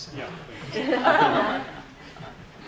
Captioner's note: audience laughs